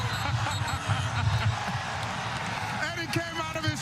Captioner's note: laughter